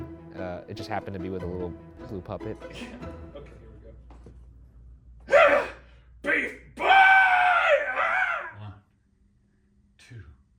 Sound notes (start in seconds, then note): 6.2 yells; 6.7 screams